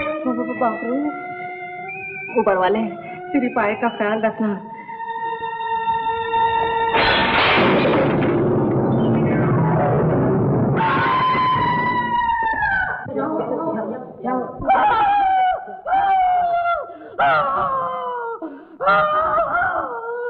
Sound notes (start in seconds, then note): 6.8 tray rattles; 10.7 screams; 14.6 groans